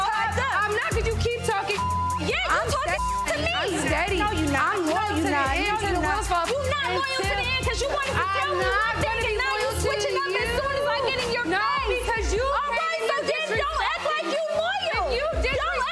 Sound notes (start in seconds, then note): 1.7 beep; 5.5 shouting over each other